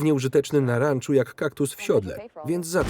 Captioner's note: gunshots